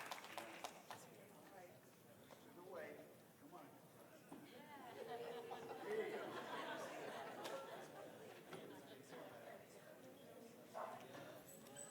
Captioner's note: applause